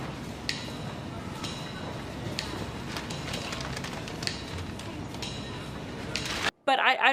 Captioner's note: people chattering; suspenseful music